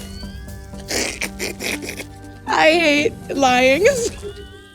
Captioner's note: snorts